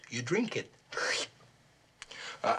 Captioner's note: slurps